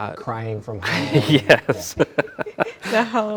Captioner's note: both laughing